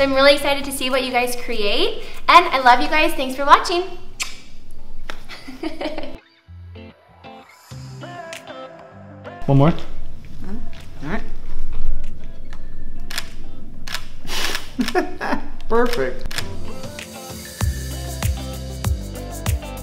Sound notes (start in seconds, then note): 14.6 laughs; 16.4 upbeat, cool music